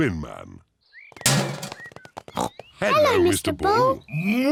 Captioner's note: bin clangs; snorts